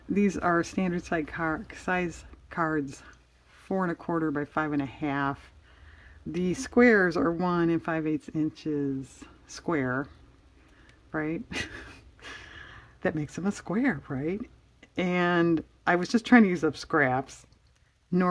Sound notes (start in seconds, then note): 11.5 laughs